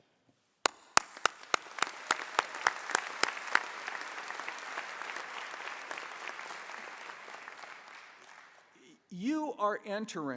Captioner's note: applause